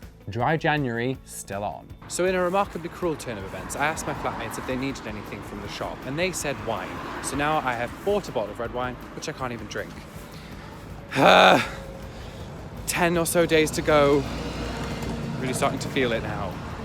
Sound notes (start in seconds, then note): 11.1 sighs loudly